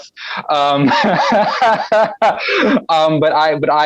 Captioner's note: laughs